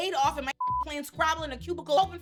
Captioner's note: beep